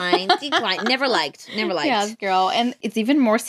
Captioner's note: laughs